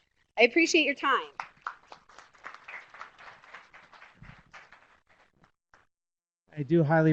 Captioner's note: applause